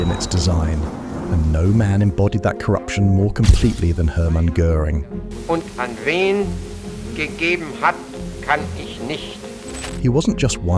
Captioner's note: Göring speaking in Deutsch